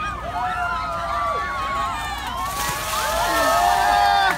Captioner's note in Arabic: هتاف حاشد